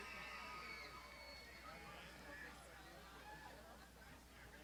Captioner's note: crowd shouting